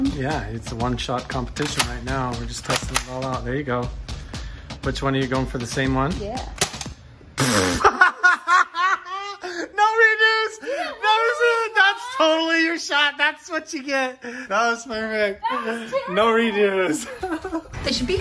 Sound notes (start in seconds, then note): 6.5 gun clicks; 7.4 laughing